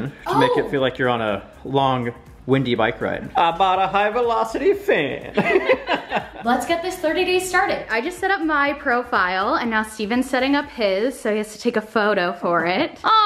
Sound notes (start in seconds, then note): 5.3 laughing